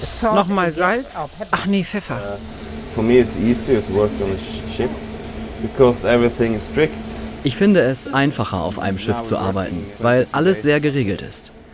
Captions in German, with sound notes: (englisch:) Noch mal Salz? Ach nee, Pfeffer. (englisch:) Ich finde es einfacher auf einem Schiff zu arbeiten, weil alles sehr geregelt ist.